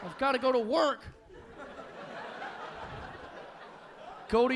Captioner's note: audience laughing